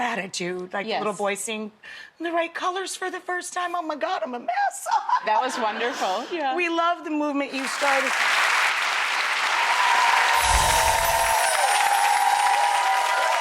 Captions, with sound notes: And gratitude, like the little boy seeing the right colors for the first time, oh my God, I'm a mess. (crowd laughs) That was wonderful, yeah. We love the movement you started. (crowd claps and cheers) (chimes jingle)